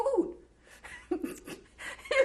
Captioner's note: laughs